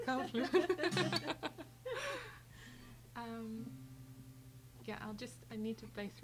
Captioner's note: laughing